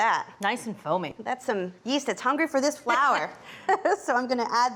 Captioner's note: laughs